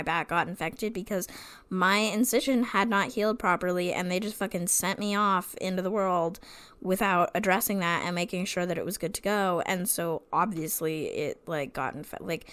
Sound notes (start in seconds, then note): none